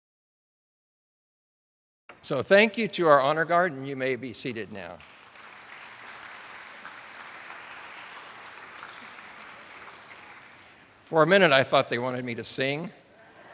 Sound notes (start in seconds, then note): 4.8 attendees applauding